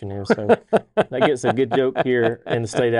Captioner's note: laughs